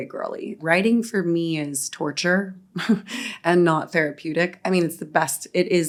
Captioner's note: chuckles